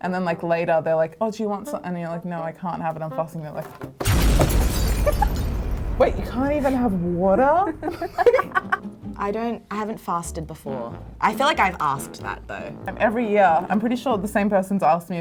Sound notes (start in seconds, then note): 3.9 shattering; 4.0 explosion; 7.6 laughing